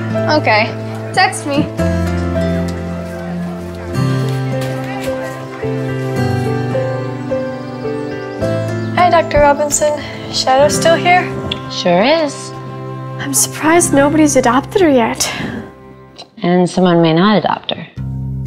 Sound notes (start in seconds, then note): 3.7 gentle music; 6.9 birds chirping